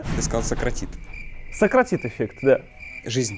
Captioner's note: crickets